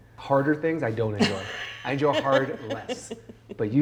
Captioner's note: chuckling